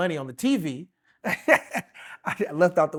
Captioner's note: laughing